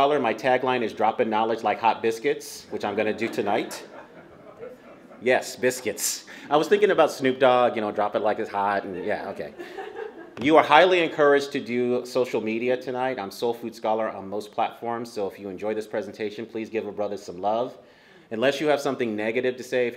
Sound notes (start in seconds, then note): 2.8 laughter